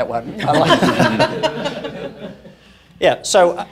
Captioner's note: laughing